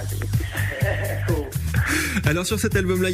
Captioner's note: laughs